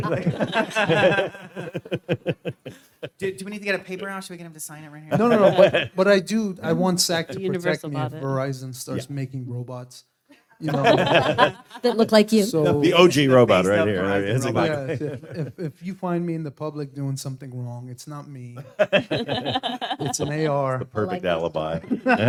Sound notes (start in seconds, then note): 0.0 panel laughs; 18.6 panel laughs